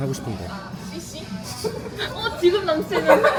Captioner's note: laughs